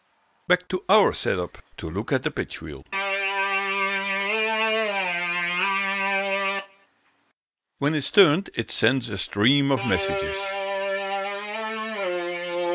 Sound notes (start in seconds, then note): 2.9 pitch bended sound